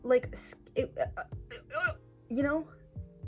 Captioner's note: stammering